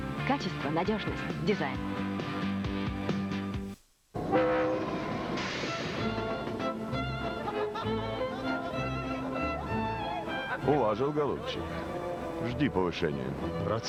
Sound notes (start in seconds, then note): 4.2 locomotive whistle; 5.8 classical music